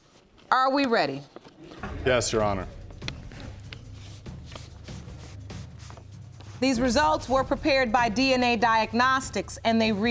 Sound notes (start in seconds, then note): none